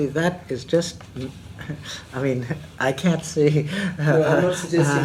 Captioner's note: laughs